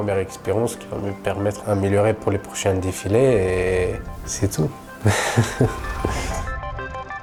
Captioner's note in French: rires